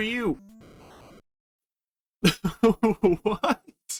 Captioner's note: laughing